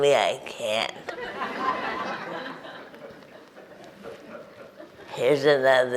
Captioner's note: audience chuckles